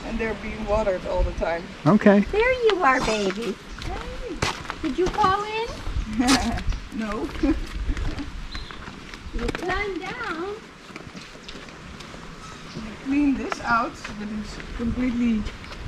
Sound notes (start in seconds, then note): 7.2 laughs